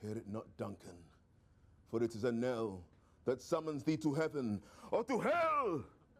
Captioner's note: none